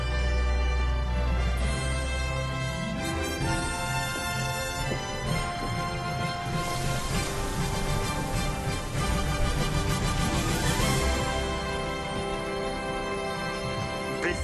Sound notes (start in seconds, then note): 0.2 galley roars; 5.4 water splashing